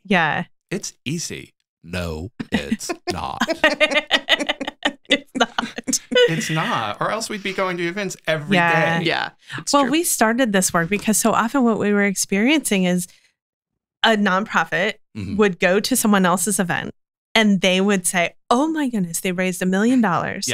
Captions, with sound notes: like, let's throw an event. Let's raise money. It's easy. No, it's not. (both laughing) - It's not. - It's not, or else we'd be going to events every day. - Well, we started this work because so often what we were experiencing is a nonprofit would go to someone else's event,